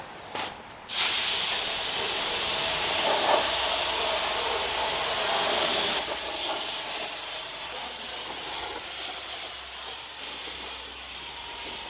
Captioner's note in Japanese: 塗装音